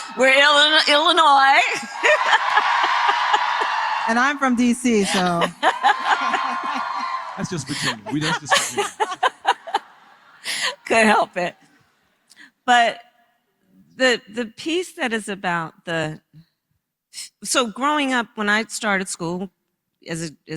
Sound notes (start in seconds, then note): 1.7 applause; 5.6 applause